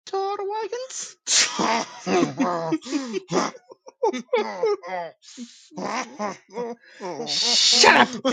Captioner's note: laughing and chuckling